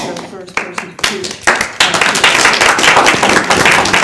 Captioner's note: applause